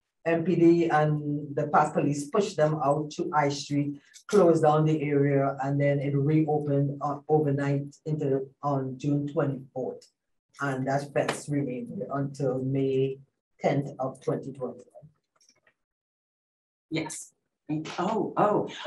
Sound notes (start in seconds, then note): none